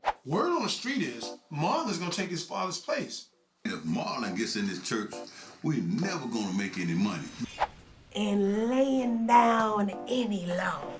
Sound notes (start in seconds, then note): 5.6 J.A.T. Sports TV playing in background